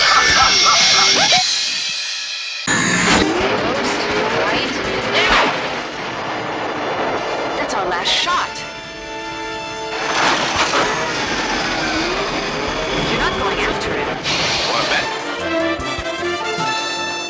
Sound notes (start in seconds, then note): 2.6 loud static; 9.7 K.I.T.T. lands